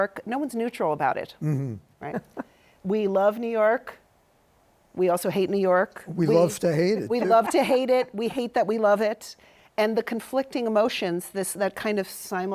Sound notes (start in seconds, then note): 2.0 chuckles